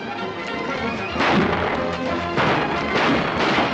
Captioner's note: gunshots